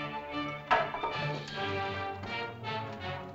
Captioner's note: suspenseful music; staff clatters; suspenseful music